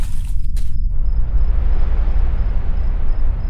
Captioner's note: crash on leaves; wind pulsating